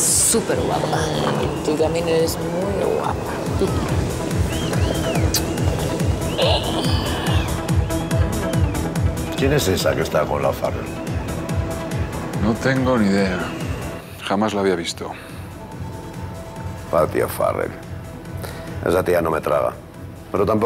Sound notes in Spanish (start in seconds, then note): 4.4 Risas